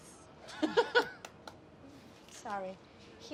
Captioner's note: laughs